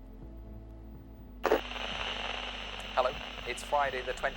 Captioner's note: static on old television